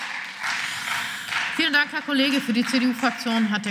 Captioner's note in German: Beifall